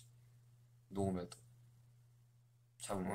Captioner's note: silence